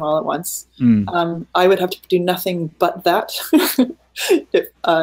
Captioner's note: laughing